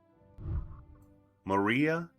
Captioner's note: whooshing